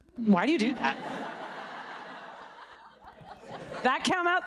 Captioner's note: audience laughing